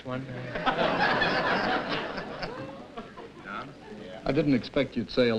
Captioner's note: laughter